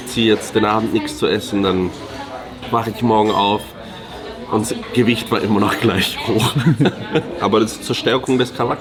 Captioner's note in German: gelächter